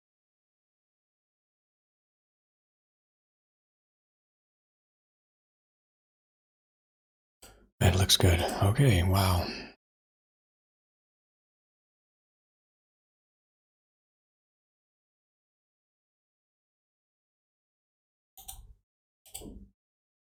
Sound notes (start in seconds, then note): 0.2 blank Audio; 9.6 blank Audio